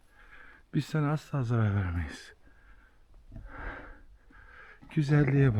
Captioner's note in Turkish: iç çeker